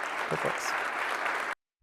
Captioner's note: applause